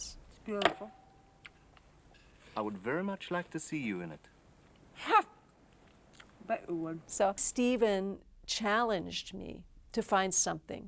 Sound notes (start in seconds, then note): 4.6 laughs